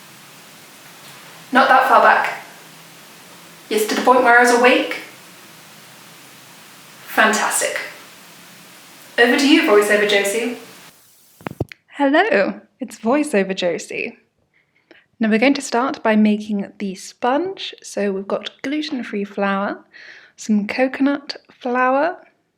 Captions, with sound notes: Not that far back. Yes, to the point where I was awake? Fantastic. Over to you Voiceover Josie! *Click* Hello! It's Voiceover Josie. Now we're going to start by making the sponge so we've got gluten free flour, some coconut flour,